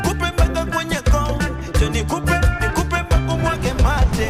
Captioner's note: motorcycle